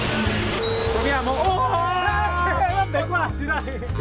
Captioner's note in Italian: Urla e risate